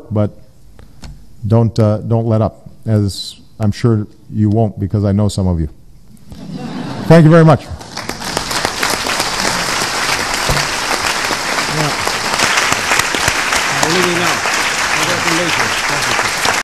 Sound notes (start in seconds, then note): 6.3 laughter